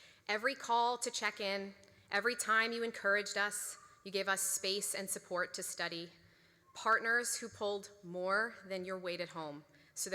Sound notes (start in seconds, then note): none